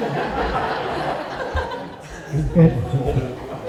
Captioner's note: laughter